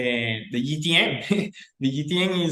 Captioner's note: laughing